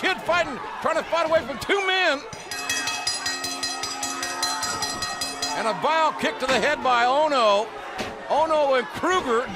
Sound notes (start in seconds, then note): 4.5 bell ringing